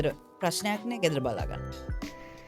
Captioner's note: speaking in foreign language